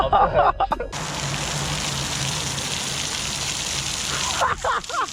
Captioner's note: water splashing on rocks; cackling